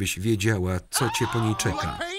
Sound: screams

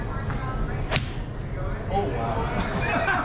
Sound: golf club whacks; laughs

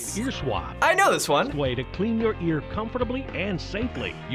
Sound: voice-over

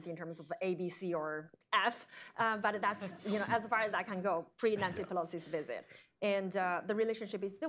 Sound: laughter

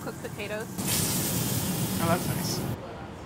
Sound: food sizzling

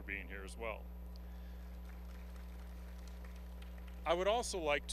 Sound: applause

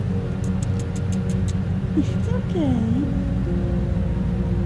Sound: tongue clicking sounds

